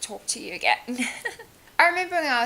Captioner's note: laughs